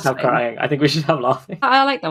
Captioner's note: laughing